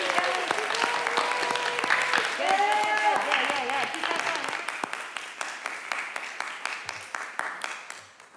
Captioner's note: crowd cheering and applauding